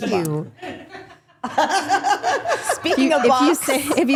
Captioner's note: group laughing